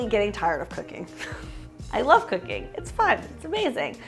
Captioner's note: chuckles